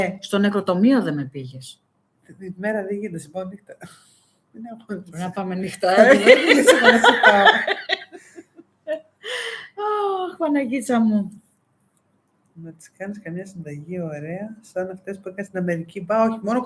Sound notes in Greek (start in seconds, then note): 6.0 γέλια